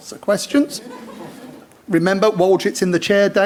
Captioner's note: audience laughs